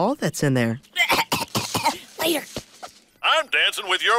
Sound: coughing

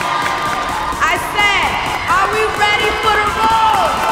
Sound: cheers and applause

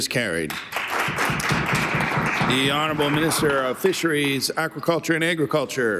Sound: applause

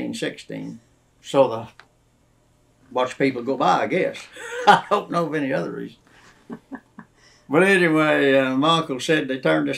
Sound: laughs

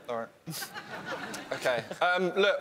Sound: laughing

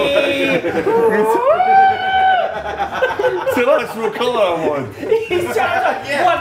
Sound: laugh

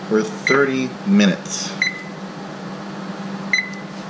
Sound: beeping

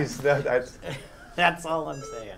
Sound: laugh

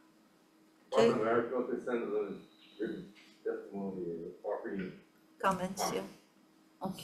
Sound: Department of Ag speaking faintly

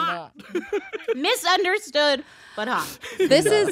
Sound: laughs

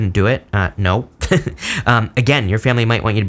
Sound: laughs

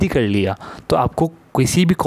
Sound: French accent

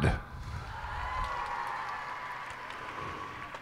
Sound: cheers and applause

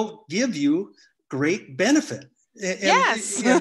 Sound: laughs

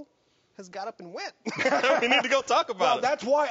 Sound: hosts laugh

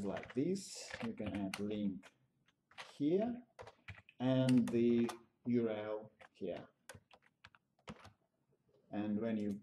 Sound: typing

